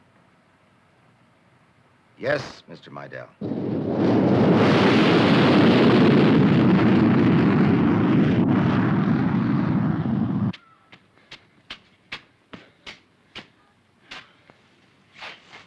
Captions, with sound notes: Yes, Mr. Meidel. [plane engine roaring] [footsteps approaching]